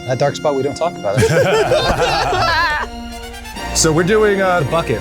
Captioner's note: crowd laughing